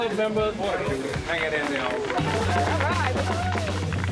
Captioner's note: crowd clapping